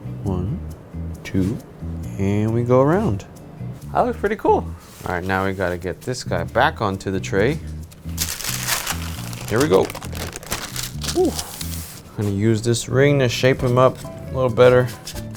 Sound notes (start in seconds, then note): 8.0 paper crinkling